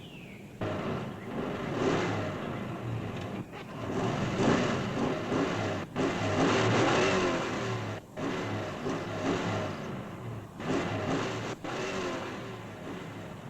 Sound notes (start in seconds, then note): 0.6 engine malfunctioning